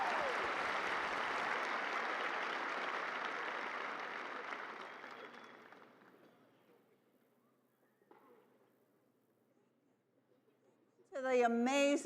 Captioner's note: cheers and applause